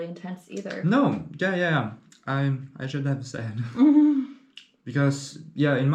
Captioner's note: giggles